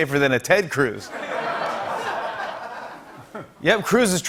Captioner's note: laughter